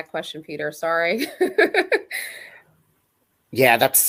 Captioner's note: laughter